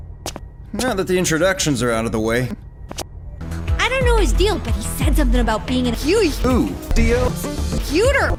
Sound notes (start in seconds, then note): 0.2 footsteps; 2.5 footsteps backwards